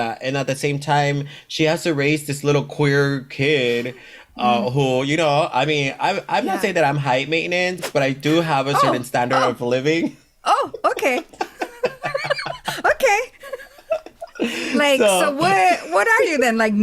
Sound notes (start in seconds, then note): 11.0 laughs